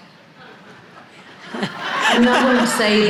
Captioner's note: audience laughing